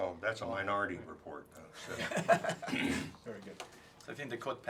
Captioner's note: laugh